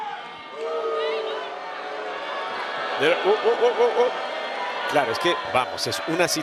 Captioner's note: applause